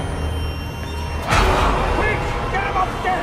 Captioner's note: tense music; William screams